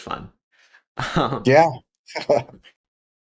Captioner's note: laugh